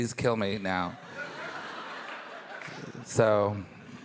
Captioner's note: audience laughing